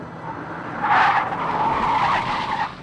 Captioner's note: tires squeal